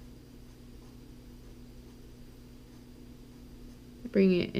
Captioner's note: pen writing on paper